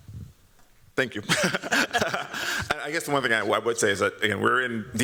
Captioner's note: chuckles